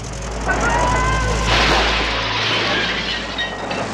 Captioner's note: crashing